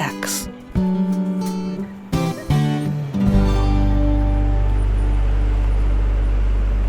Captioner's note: city traffic bustling; gentle guitar music